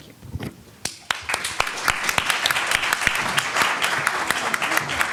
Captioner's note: audience clapping